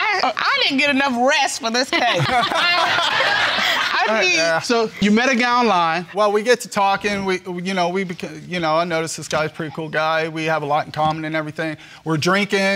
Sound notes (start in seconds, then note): 1.8 laughter; 6.8 stuttering